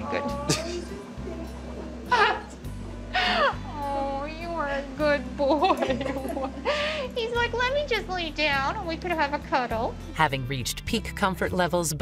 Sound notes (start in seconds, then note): 3.1 laughing; 5.5 laughing